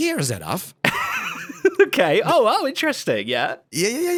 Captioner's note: laughs